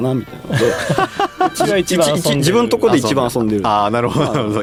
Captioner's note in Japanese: 笑い